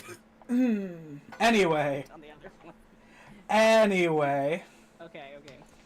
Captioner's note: mumbles